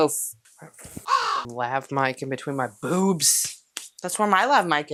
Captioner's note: caw